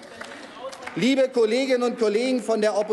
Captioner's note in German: Applaus